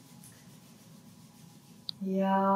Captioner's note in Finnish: käsien hankausta